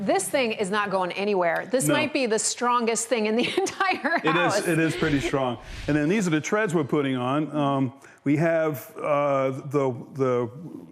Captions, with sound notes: - This thing is not going anywhere. - No. - This might be the strongest thing in the entire house (laughing). - It is pretty strong. And then these are the trends we’re putting on. We have,